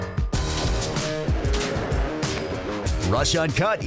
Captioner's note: upbeat rock music; gunshot cracking